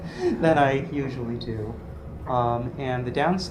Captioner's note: laugh